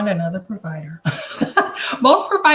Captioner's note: chuckles